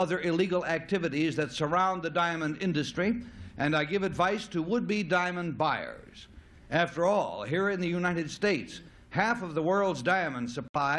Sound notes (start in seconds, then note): none